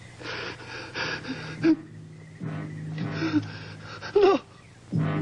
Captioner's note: Arthur whimpering